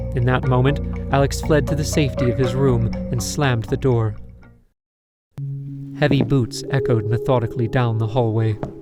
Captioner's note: none